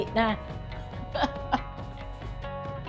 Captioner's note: laughs